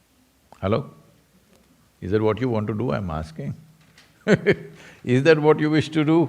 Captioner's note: laughs